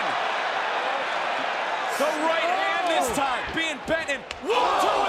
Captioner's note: crowd cheering